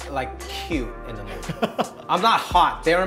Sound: laughter

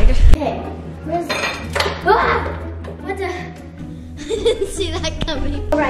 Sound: chuckles

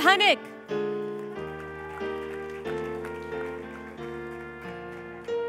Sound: applause

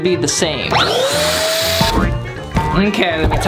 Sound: whirring sound

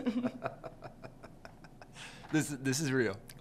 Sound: chuckles

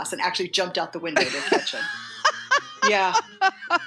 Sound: laughter

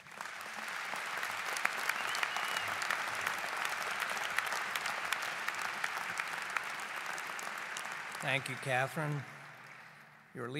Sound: applause

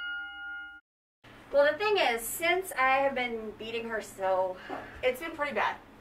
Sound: sigh

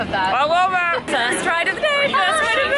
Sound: yelling

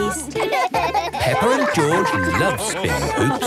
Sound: both laugh

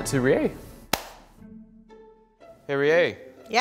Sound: claps

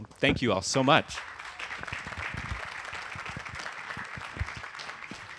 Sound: audience applauding

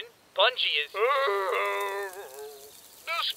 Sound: Sarge groans

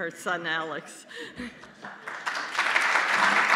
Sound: applause

